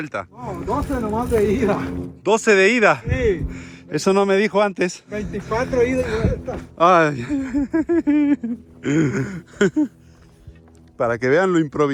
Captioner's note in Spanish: risas